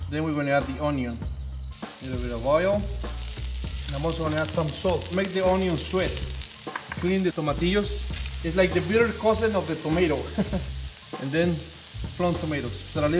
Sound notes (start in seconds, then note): 3.3 sizzling; 10.3 laughing